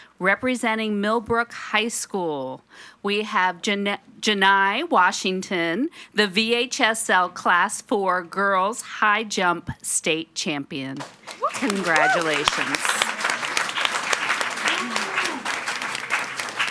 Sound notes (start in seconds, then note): 12.5 audience applauding